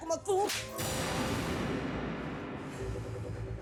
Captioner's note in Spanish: bofetada